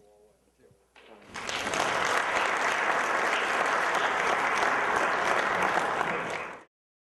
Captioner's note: applause